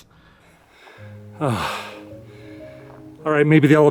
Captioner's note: sigh